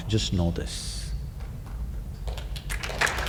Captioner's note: applause